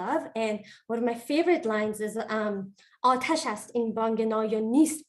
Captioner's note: non-english speech